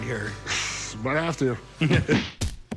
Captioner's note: laughter